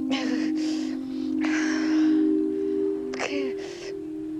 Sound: Natalie breathing shakily

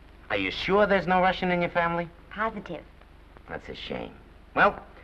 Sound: none

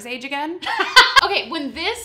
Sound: laughs

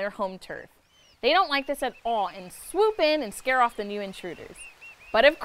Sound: oystercatcher makes a loud call

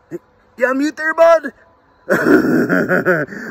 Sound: laughing

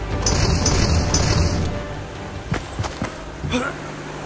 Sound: gas bomb booming

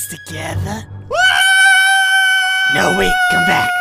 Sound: screaming

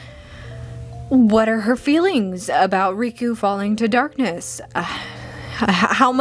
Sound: labored breaths of searching

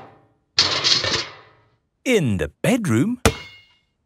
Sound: banging

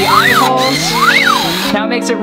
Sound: drill buzzes

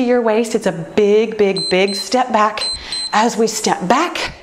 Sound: timer beeps

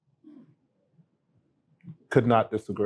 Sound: hums

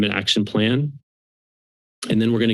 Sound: pause

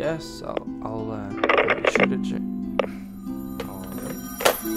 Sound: phone clicking; phone ringing

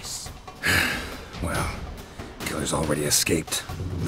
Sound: frustrated sigh

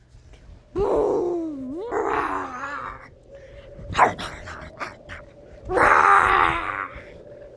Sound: Finn growls

